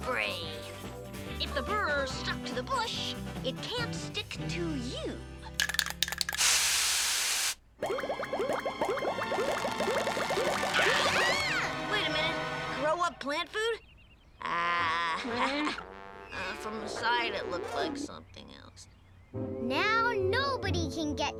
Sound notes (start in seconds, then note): 5.6 spray can rattling; 5.6 spray can spraying; 6.6 dramatic music; 7.8 burrs popping; 10.5 all scream; 14.2 sad trumpet